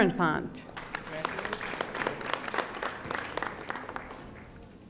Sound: audience applauding

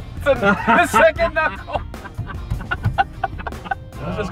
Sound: laughter

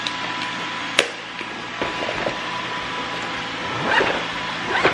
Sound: whirring and zipping

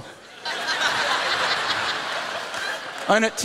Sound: laughter

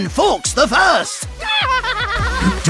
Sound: evil laughter

